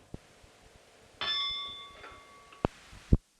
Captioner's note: bell Sound